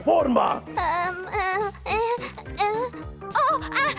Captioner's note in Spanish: Molly tartamudea